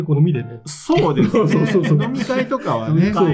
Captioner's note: laughs